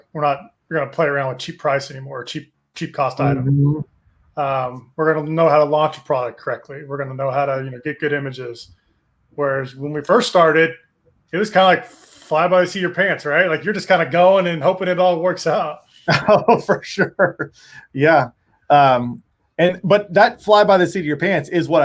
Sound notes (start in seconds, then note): 16.0 chuckles